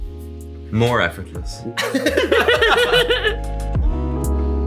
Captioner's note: laughs